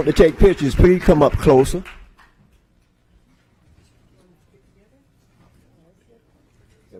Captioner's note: applause